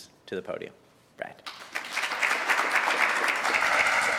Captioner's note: applause